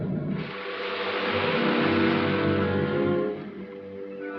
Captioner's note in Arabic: صوت محرك يعمل